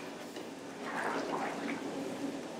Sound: splashing

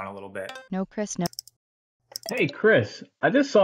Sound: clicking sound

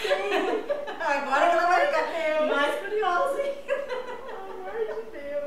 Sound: laughs; laughs

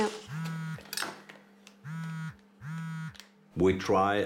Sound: phone vibrating

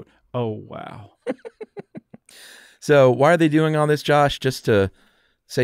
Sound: laughs

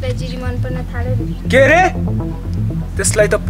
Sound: aggressively

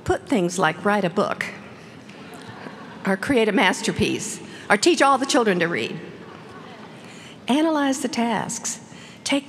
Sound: laughter

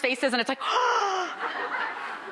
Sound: gasps; crowd laughing

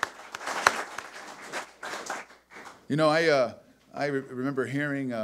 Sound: audience applause

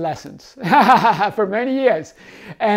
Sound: laughing

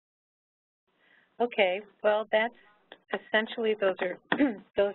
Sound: clears throat

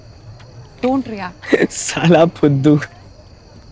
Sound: laughs

